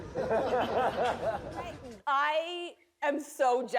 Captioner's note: laughter